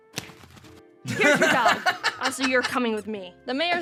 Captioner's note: laughs